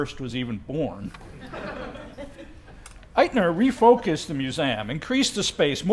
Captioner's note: laugh